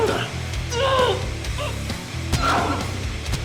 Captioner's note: Spanish; Suzette whimpers in pain